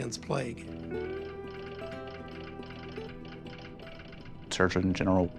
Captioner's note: machine clicking